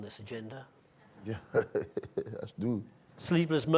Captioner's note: laughing